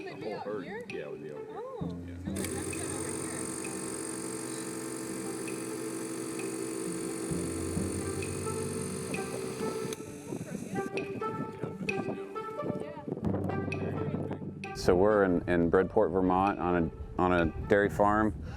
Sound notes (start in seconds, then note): 0.0 lively music; 2.3 engine roaring